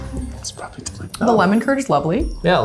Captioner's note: whispering